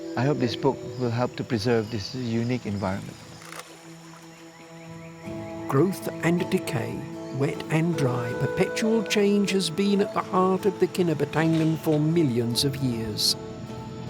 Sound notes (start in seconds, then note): 3.4 camera clicks